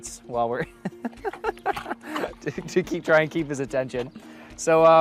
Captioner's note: chuckles